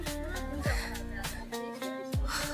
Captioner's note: very breathless